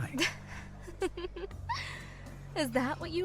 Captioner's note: amused laugh